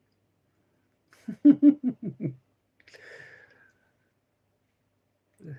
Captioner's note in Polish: śmiech